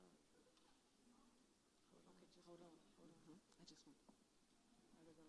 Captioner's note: murmuring conversations